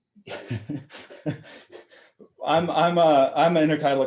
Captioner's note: laughing